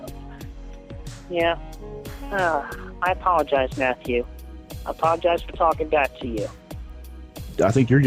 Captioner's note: sigh